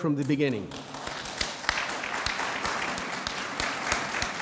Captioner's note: audience applauds